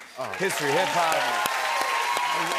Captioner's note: cheers and applause